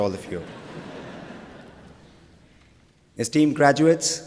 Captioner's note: laughter